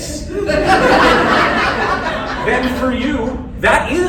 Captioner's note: laughter